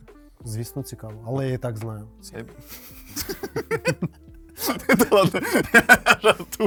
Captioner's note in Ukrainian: сміх